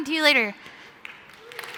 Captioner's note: applause